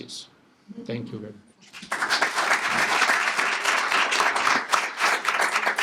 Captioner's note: applause